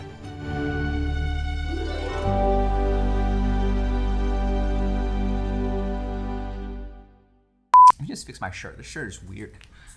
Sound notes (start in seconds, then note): 0.0 gentle music; 7.7 beep